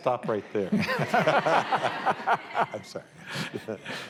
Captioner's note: laughter